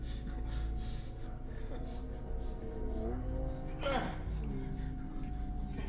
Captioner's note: grunting